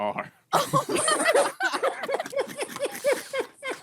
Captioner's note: laughing